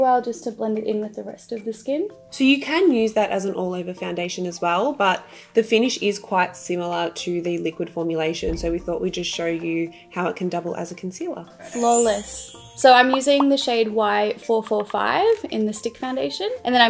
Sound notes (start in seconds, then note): 11.6 glitter sound